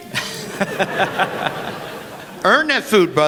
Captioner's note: laughter